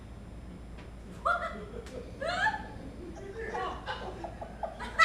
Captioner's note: laughter